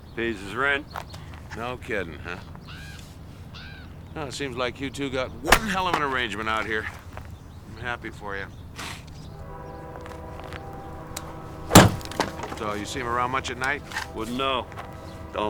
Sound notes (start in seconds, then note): 8.7 sniffs